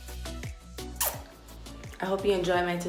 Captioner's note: upbeat music; kissing